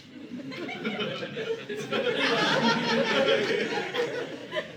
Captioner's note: audience laughing